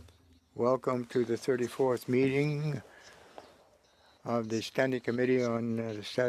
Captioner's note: speaking French